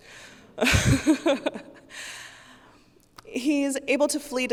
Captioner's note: laughs